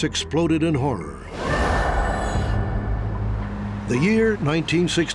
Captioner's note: woman screaming